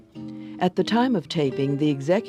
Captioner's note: voiceover